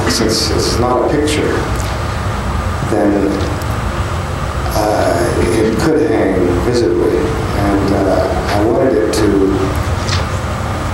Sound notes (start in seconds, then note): none